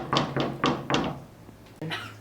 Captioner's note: knock on the door